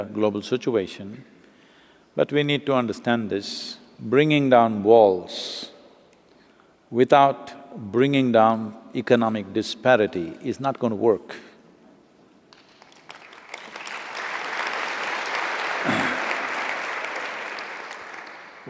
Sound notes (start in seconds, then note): 12.5 applause